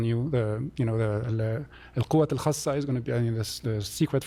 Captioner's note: non-english